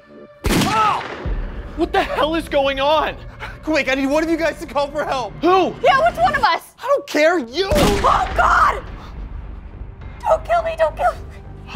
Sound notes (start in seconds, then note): 0.3 man groans; 0.4 gunshot; 7.6 gunshot